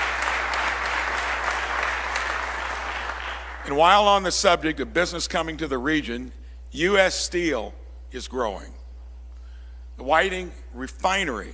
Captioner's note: applause